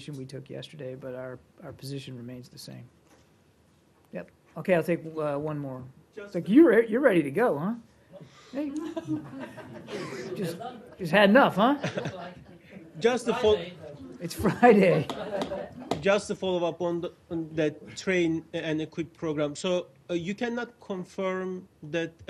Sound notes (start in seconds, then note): 9.0 laughter; 14.4 laughter